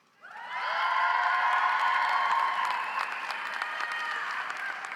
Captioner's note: audience applauds